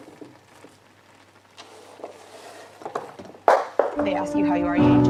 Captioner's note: sweet potato rolls off board and hits surface of hob